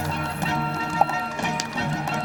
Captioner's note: pop